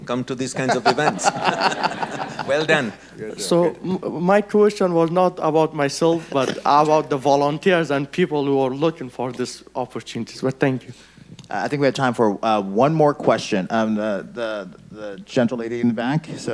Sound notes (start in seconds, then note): 0.6 audience laughing